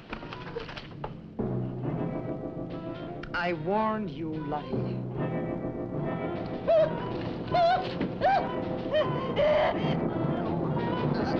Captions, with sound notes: - I warned you, Lottie. (Lottie screaming)